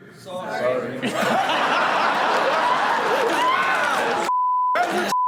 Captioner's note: all laughing